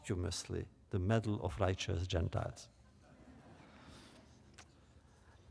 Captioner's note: laughter